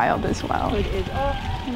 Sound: distant voice

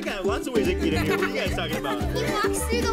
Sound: laughs

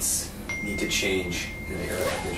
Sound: ding

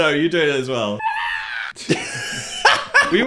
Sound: screams; laughing

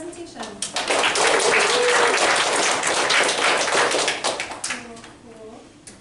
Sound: applause

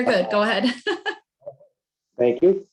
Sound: laughs

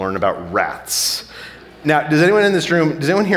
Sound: audience laughing

